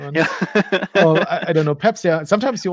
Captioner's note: laughing